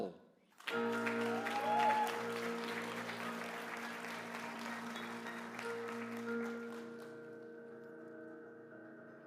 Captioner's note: applause